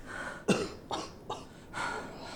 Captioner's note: Gale coughing